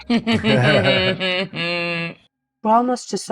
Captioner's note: chuckles